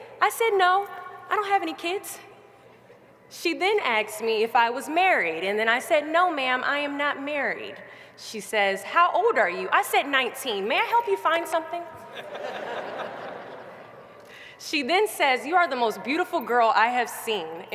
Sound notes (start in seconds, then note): 14.3 laughter